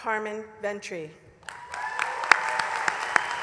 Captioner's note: applause